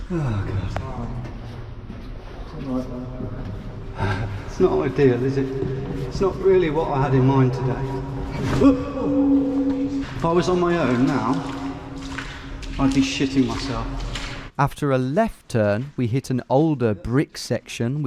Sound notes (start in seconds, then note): 8.6 groaning; 11.8 water sloshing